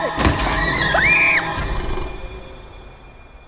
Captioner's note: screams